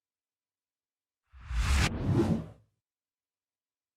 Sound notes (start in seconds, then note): 1.4 graphic swooshes